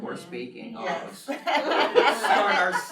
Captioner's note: laughter